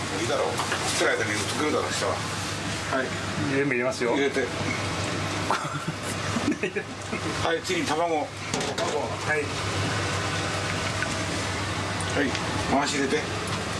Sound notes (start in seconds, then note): 5.4 man laughing